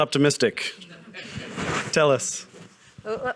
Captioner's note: audience chuckling